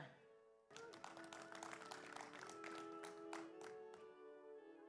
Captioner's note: audience applauds